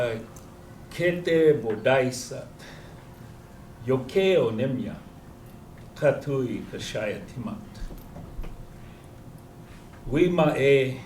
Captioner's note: non-english speech